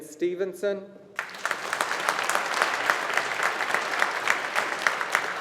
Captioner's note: audience applauding